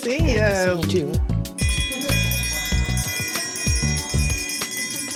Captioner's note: bell ringing